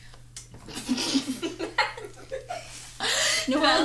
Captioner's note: laughs